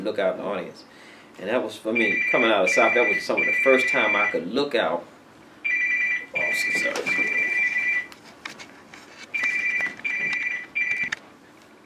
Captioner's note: phone ringing